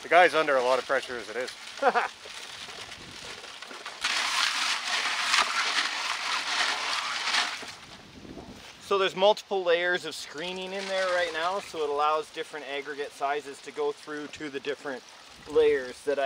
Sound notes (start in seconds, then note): 1.8 chuckles; 4.1 rocks clattering; 4.1 water splashes